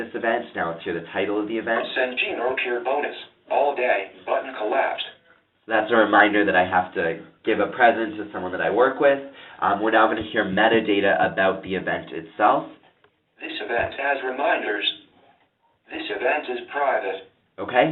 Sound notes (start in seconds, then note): 2.4 computer speaking